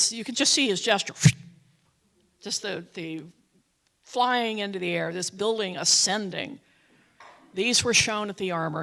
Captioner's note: whoosh sound